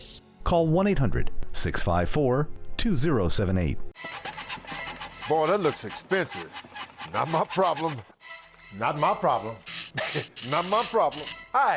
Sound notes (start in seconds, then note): 4.2 suspenseful music; 5.0 tools squeaking; 9.4 laughing